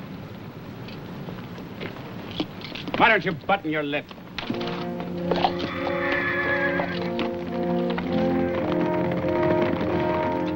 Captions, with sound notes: - Why don't you button your lip? (horses neighing) (dramatic music)